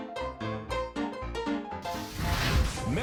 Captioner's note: flames whooshing